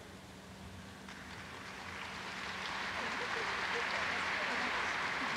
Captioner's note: audience applauds